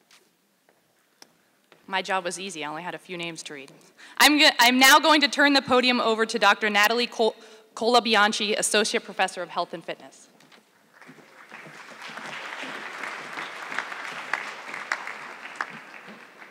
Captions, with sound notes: My job was easy, I only had a few names to read. I am now going to turn the podium over to Dr. Natalie Colabianchi, Associate Professor of Health and Fitness. (audience clapping)